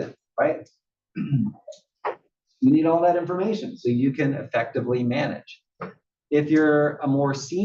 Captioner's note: cough